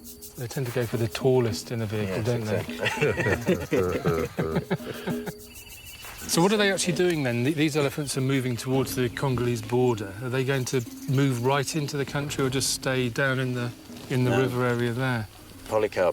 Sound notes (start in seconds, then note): 2.0 all laugh